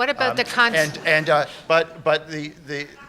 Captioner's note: laughter